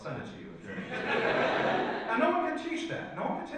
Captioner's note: audience laughs